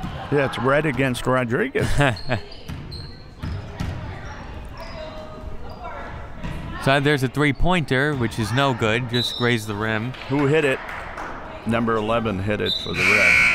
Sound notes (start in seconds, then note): 10.0 whistle; 12.9 buzzer